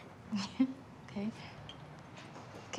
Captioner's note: laughs